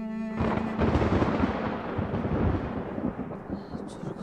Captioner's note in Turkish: Gök gürültüsü sesi